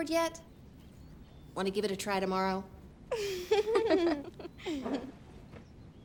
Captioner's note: kids laughing